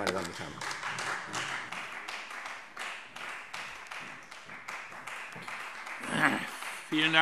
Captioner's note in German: Beifall Freie Demokraten